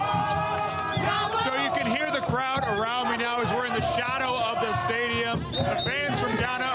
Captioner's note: applause